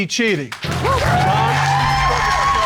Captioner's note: cheers and applause